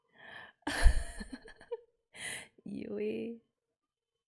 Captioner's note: laughs